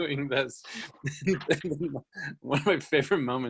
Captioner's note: laughing